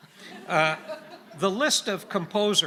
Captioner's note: audience laughing